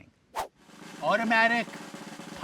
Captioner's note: whooshing